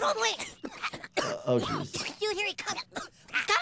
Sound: boys coughing

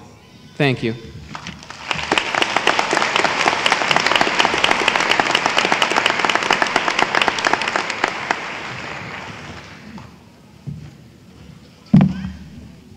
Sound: applause

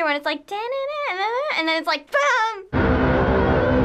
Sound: eerie music; humming eerie melody

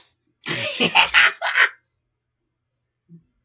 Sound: laughs

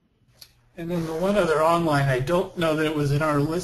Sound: voiceover

